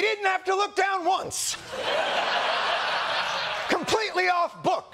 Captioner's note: laughter